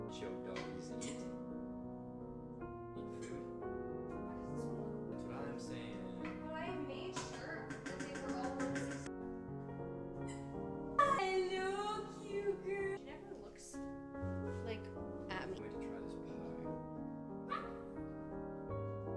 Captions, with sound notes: It's your dog, he's eating it. Eating food. Why is this so wrong? That's what I'm saying. Why make sure that they were all in 61? (Soft Music) Hi. Hello, cute girl. She never looks like Abby. Can't wait to try this one. (Dog Barks)